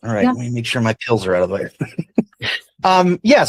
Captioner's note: chuckles